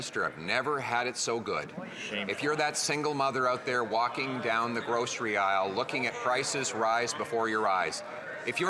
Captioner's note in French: voix de l'interprète